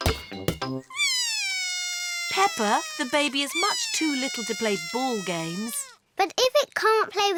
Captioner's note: bawls